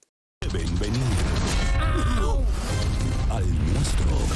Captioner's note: speaking in Spanish